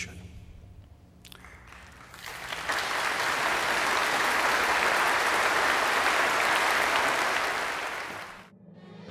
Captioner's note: applause